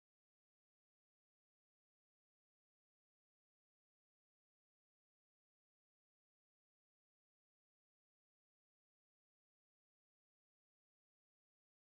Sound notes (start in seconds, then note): none